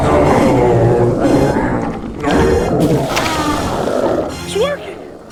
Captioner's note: riverbeast moans